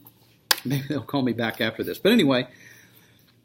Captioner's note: laughs